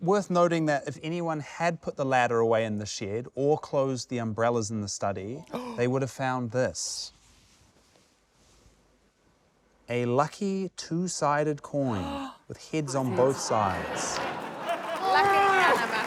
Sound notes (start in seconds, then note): 9.8 gasps; 12.8 laughter